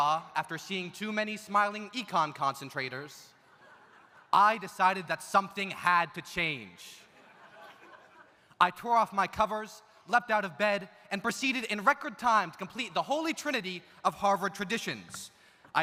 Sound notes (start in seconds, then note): 7.1 audience laughs